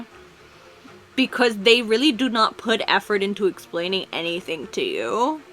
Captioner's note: none